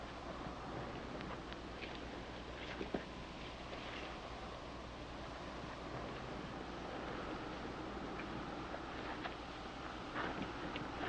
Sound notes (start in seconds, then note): none